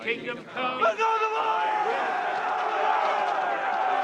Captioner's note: crowd